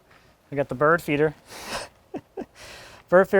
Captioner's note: laughs